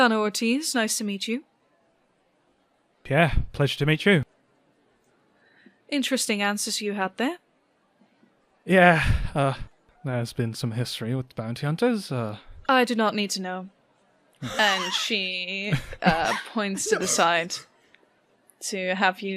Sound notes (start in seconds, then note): 14.4 laughter